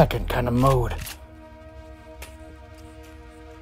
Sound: gun Cocking Sound

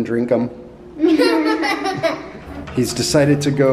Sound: kids laughing

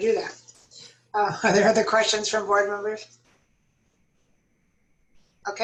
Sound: laughter

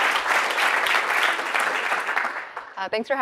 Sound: applause

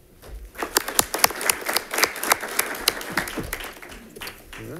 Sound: congregation claps

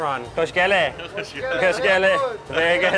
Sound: speaking foreign language; chef speaking foreign language

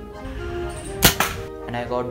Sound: bullets firing

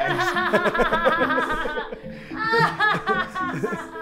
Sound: all laugh

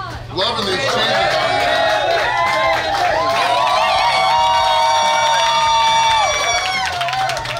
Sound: cheering & Clapping

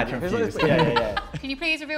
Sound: laughter

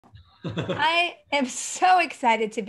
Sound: Misha laughing

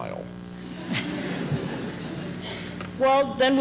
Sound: laughter

